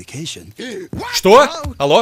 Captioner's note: gasps